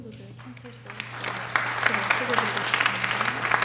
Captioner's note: applause